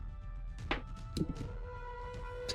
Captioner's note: dice roll